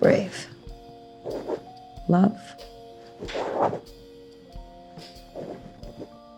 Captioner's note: pen scratching